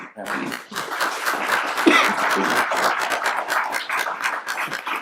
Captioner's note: applauding